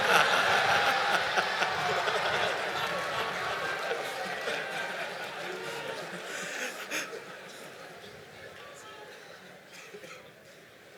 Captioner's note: laughter